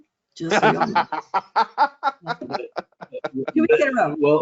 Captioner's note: laughing